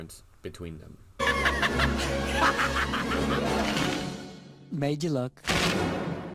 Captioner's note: laughing